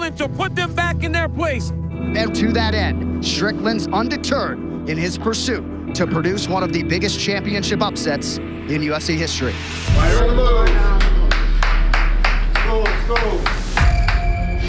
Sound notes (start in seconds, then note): 10.6 person applauding